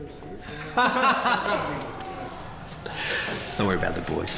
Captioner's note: laughing